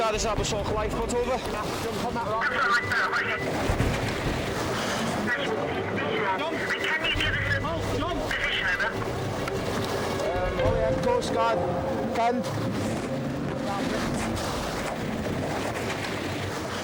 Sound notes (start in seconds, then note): 2.3 radio vocalizing; 3.5 water whooshing; 3.5 wind whooshing; 6.7 radio vocalizing; 9.2 intense music; 9.2 water whooshing; 13.1 water whooshing; 13.1 waves crashing